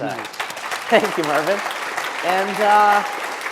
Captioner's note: applause